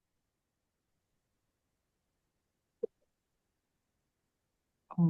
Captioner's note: silence continues